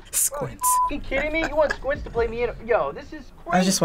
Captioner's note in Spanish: Risas